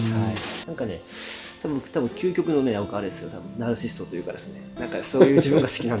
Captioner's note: laughs